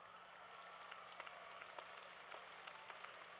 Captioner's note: applause